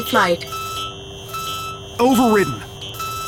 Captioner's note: alarms blaring